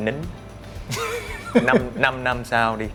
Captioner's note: laugh